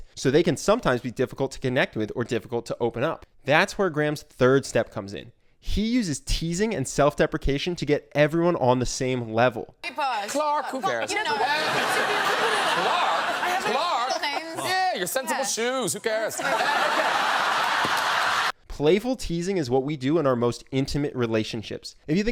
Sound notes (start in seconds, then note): 9.9 overlapping chatter from the guests; 17.4 audience laughs